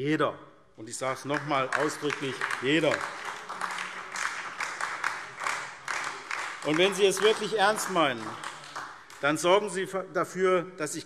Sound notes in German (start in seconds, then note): 4.4 Beifall SPD